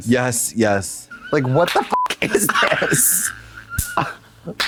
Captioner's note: beep